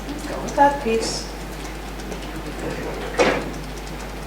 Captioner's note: tapping